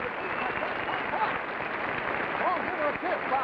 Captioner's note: crowd clapping